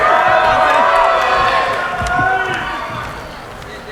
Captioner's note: cheering